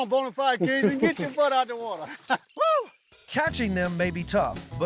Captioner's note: laughing